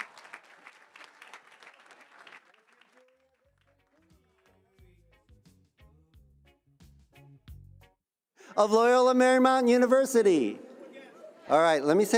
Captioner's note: cheers and applause